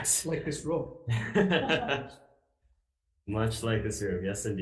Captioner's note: both chuckling